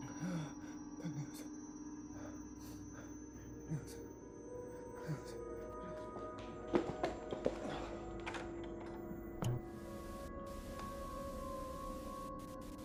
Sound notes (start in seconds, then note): 6.0 mysterious music; 9.5 static buzzing